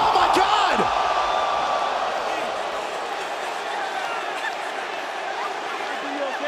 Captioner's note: crowd cheering